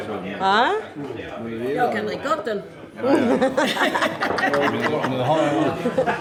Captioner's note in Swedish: skratt